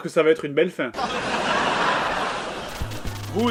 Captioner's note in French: rires du public